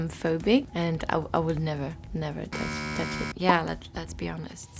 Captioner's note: buzzer rings